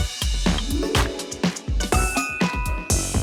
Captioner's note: applause